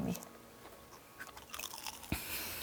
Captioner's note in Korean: 와삭